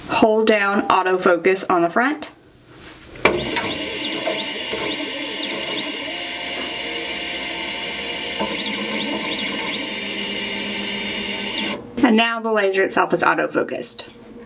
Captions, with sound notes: Hold down auto focus on the front. (machine whirs) And now the laser itself is auto focused.